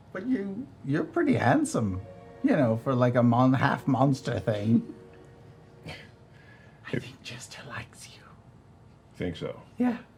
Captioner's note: whispering